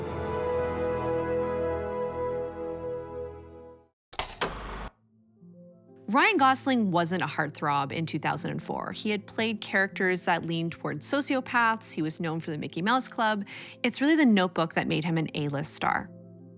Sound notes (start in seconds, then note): 0.3 light music; 4.1 film reel clicks